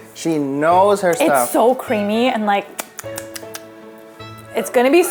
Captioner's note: chaps lips